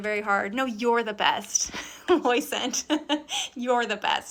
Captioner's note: laughs